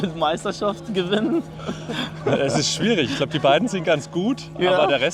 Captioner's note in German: gelächter